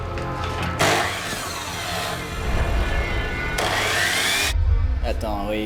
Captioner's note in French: La scie électrique vrombit